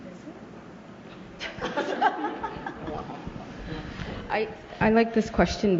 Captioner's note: laughter